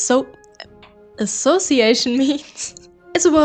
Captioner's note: giggles